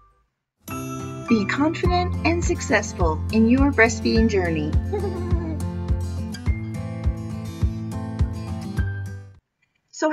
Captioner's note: baby laughing